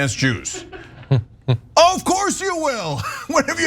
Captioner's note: laugh